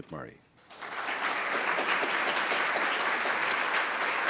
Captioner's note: applause